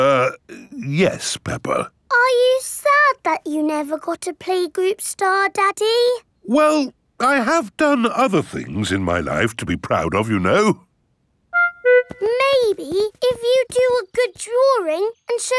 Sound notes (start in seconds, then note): none